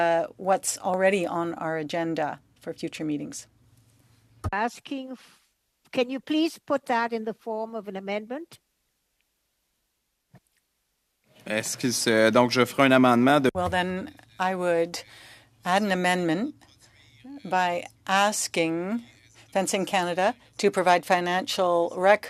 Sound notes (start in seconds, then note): 16.2 speaking French